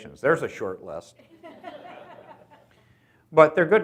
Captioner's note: audience laughs